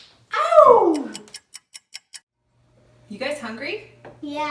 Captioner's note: clock ticking